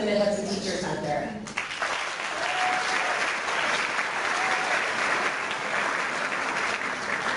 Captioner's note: clapping